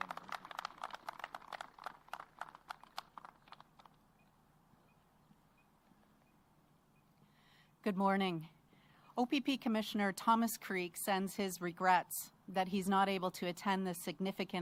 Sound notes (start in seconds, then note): 0.0 applause